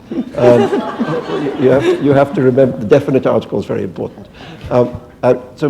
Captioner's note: laughter